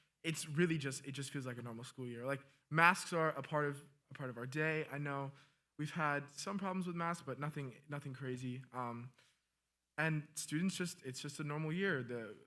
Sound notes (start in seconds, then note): none